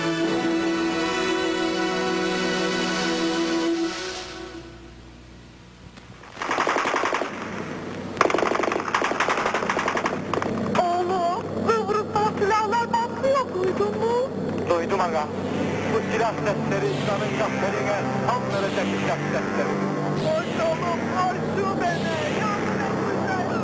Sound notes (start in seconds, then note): 6.3 gunfire sounds; 9.7 people speaking in turkish